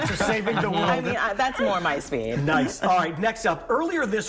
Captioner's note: laughter